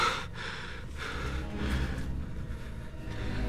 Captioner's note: panting